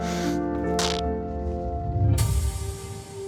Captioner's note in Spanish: Sonido al rasgar la tela